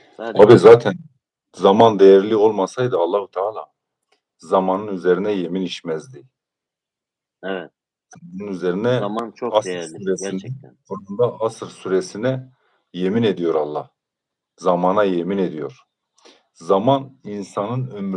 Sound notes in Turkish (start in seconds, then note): none